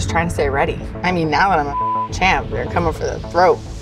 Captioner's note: beep